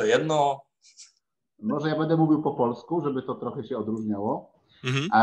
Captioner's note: starts speaking Polish